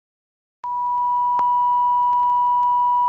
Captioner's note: beep